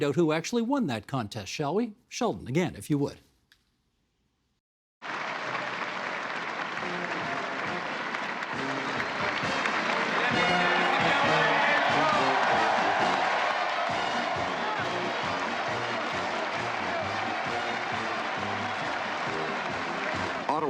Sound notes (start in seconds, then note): 4.8 crowd clapping; 13.4 crowd cheering